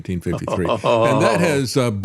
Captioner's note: laughing